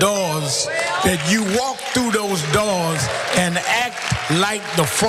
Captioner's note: applause